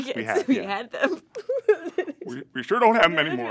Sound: sobbing

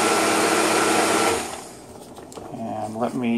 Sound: blender stops

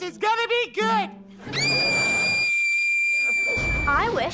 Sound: screaming

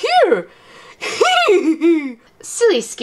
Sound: laughs

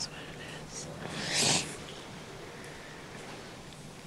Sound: sniffles

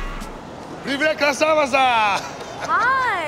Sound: russian

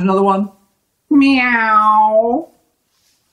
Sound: meow

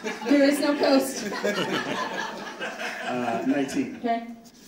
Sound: audience laughing

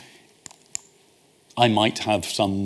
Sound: clicks

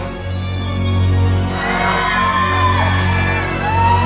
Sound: screaming

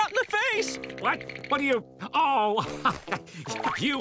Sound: chuckles

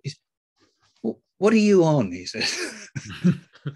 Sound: laugh

